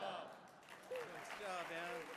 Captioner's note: audience claps